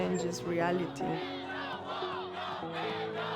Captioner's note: crowd chanting